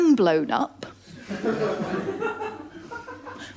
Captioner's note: laughter